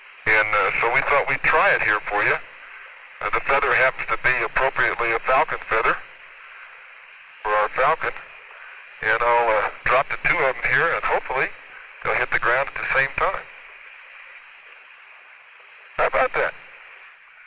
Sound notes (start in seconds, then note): none